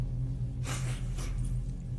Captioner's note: sniffare